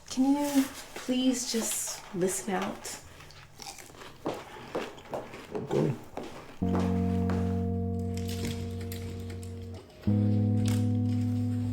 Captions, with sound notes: Can you please just listen out? [EATING] Okay. [uplifting music]